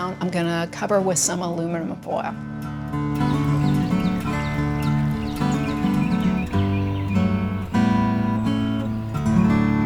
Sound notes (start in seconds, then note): 2.8 birds chirping; 3.6 light acoustic folk music